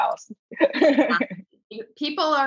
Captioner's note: laughing